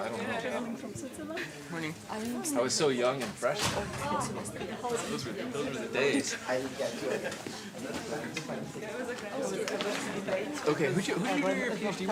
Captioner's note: background chatter